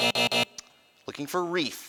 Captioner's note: buzzing